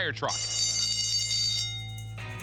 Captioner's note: bell ringing; rock music